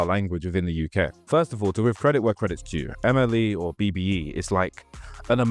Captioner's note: black British English